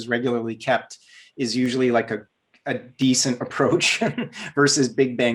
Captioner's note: laughs